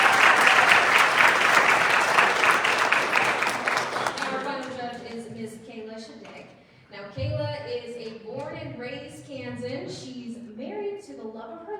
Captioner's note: applause